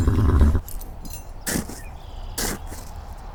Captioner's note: nickers; paws snow